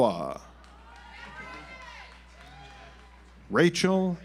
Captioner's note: audience applauds